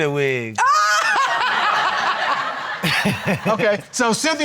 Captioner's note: all laughing